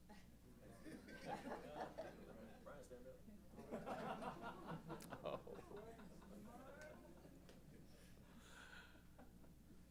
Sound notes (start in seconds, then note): 0.7 laughter; 3.5 laughter; 3.7 chuckling